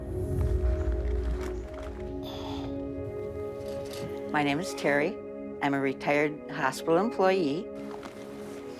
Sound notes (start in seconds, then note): 2.2 sighing